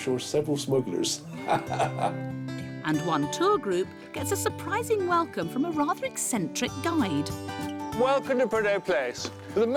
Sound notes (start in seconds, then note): 1.2 laughs